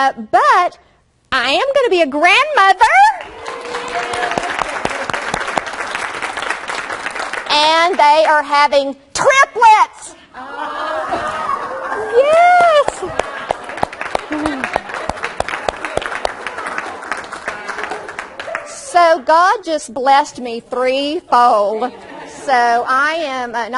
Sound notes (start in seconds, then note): 3.1 audience cheers and claps; 10.5 audience resumes cheering; 13.1 audience cheers and laughs